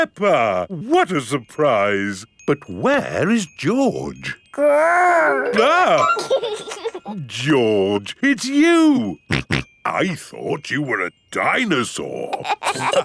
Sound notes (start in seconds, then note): 5.2 giggles; 6.3 exclaims; 9.3 snorting